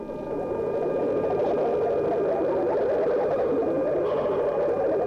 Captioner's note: eerie warbling